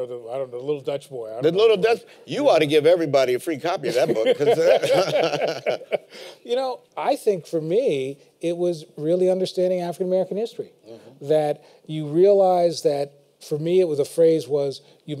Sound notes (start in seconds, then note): 3.9 laughter